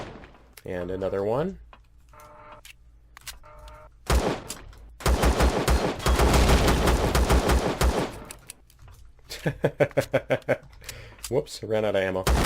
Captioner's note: laughs